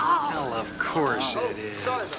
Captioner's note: banging, Chang moans